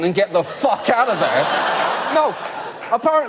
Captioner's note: audience laugh